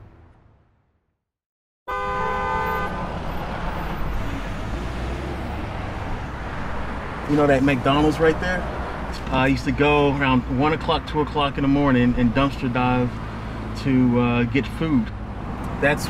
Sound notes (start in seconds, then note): 1.8 cars honking; 4.3 vehicle engines humming